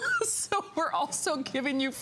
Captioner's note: laughter